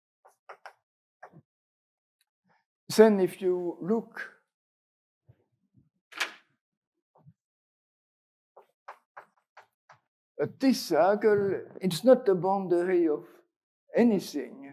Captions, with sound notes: (chalk taps) Then if you look (chalk thunks) (chalk taps) at this circle, it's not the boundary of anything